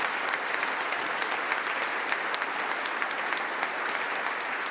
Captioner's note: congress applauding